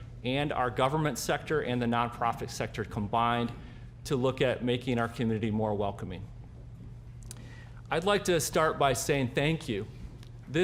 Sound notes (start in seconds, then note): none